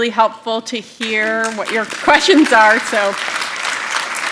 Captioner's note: applause